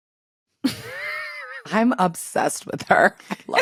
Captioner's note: laughs